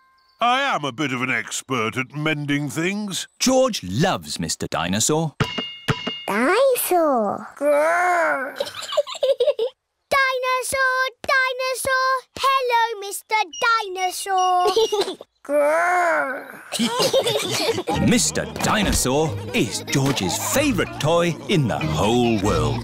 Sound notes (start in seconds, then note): 8.4 giggles; 16.6 giggles; 16.7 laughter